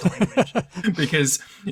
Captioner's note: chuckles; laughs